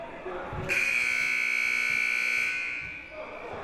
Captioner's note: buzzer